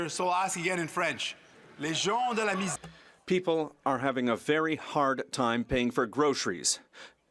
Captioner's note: speaking French